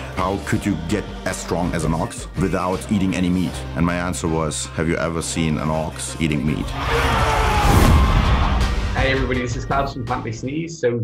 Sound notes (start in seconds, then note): 6.7 cheering